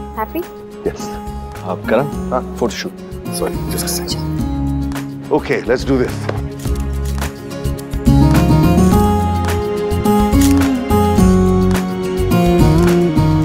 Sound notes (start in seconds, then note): 10.4 Camera click